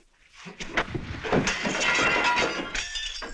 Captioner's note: glass shattering